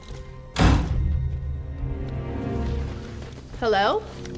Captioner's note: dramatic music; door shuts